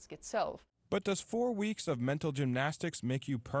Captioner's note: voiceover